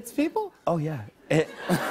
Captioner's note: laughter